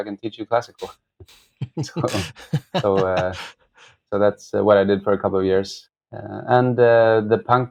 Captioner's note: laughter